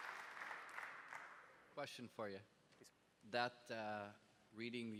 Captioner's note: applause